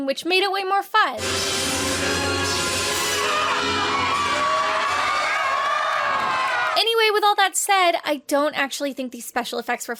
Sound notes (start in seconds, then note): 1.2 dramatic music; 1.2 guests cheering